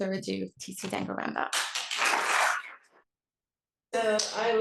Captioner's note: applause